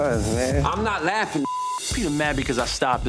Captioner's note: beep